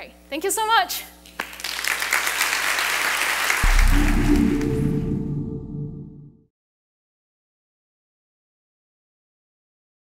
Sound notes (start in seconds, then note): 1.3 applauding; 3.8 chimes